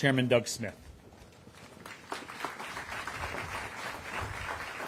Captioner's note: applause